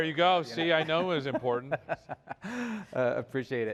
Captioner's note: laughter